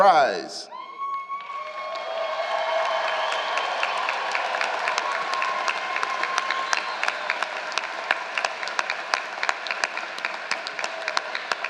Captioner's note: applause and Shouting